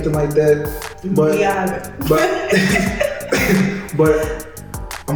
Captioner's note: laughs